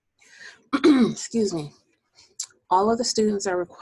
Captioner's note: clearing voice